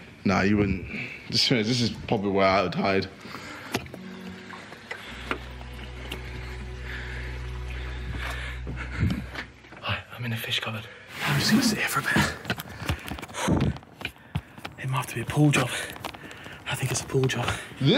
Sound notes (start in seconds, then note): 12.0 camera rustling